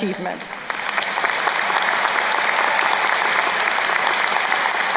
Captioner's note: crowd applauding